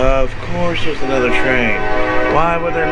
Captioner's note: train horn